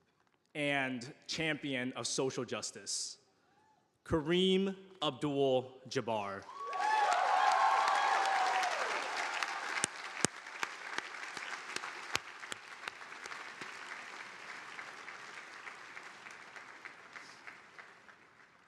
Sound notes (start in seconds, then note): 6.8 audience applauding